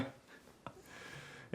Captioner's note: laughing